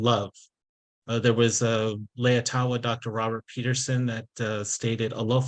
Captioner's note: speaking in Samoan